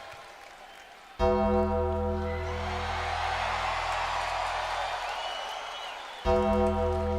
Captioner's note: bell tolls; audience cheering